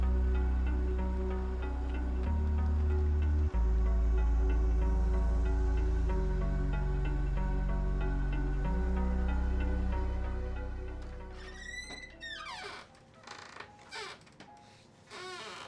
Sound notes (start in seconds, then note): 11.3 door squeaking loudly; 12.8 light piano music